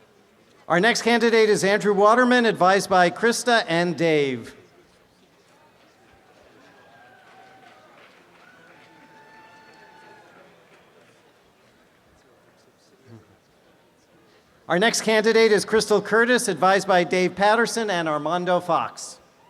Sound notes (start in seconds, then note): 4.5 background audience chatter; 19.3 applause and cheering; 19.3 background audience chatter